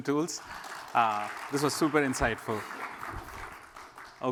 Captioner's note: applause